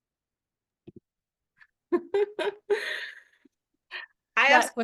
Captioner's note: laugh